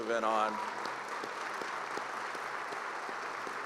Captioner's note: applause